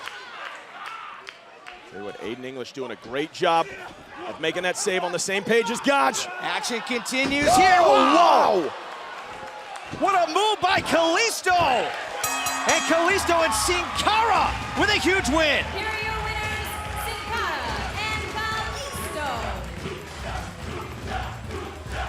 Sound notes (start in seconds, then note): 14.1 bell ringing